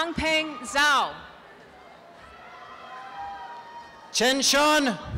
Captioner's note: applause and cheering